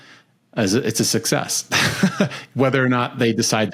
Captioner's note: laughs